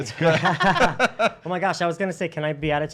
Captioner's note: laughs